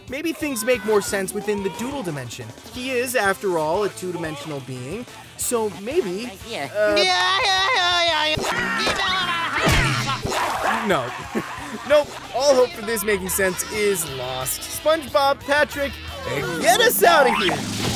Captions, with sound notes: Maybe things make more sense within the doodle dimension. He is, after all, a two dimensional being. So maybe... [talking gibberish] No. Ha. Nope, all hope of this making sense is lost. SpongeBob, Patrick, get us outta here.